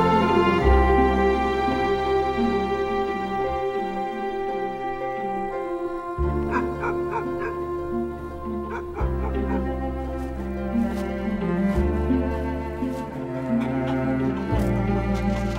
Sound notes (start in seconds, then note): 6.5 dog barking